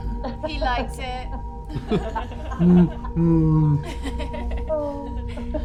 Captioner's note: bear noises